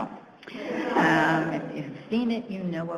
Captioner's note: audience laughs